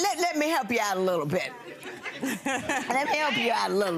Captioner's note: laughing